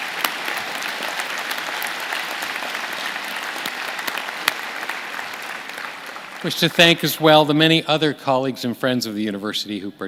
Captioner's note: applause